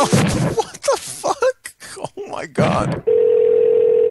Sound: laughter

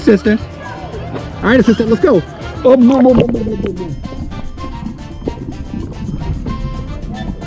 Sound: gurgles

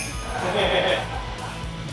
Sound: laughing

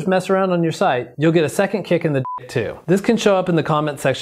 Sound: beep

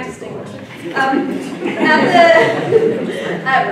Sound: laughter

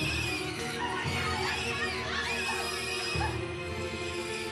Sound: screaming; pig squealing

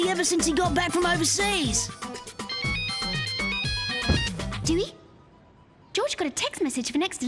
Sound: phone ringing

